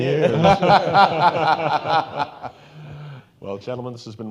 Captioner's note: all laughing